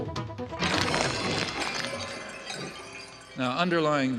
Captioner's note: dramatic music; objects clattering